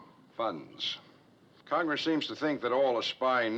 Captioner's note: pops